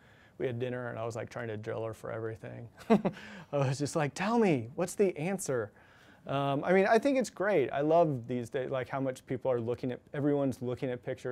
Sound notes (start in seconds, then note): 2.8 chuckles